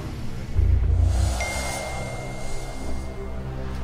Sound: ding

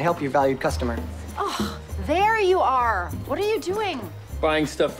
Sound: sighs

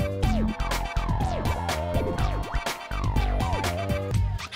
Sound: crowd cheering

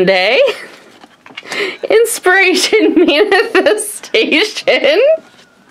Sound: laughs

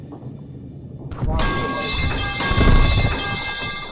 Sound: pipes dropping sfx

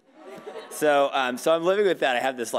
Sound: audience laughing

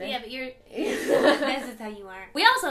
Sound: laughter

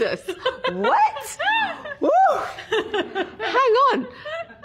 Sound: laughs

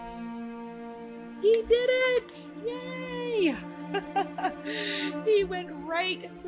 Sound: laughter

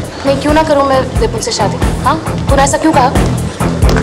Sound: none

